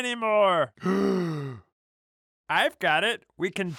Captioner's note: blue monster gasping